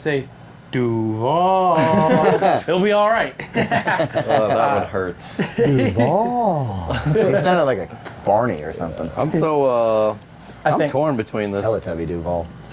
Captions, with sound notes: I think I'm also on the Liam Cohen hype train. If you can figure out how to say, Duval. It'll be all right. (laughing) Well, that would hurt. Duval. It sounded like a Barney or something.